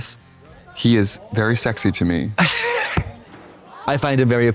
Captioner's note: Katya titters